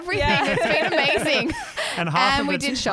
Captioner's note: laughing together